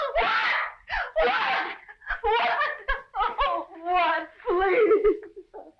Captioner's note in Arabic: ليندا تبكي